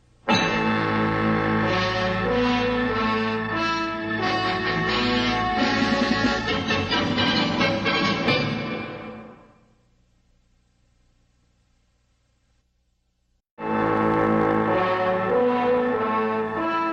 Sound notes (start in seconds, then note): 0.1 bombastic music continuing; 9.0 silence; 13.6 bombastic music resuming